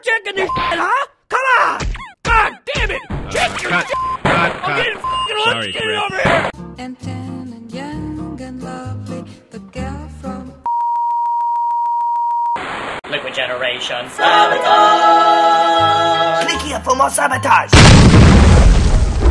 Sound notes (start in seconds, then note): 12.5 static; 17.7 large boom